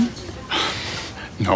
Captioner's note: sighs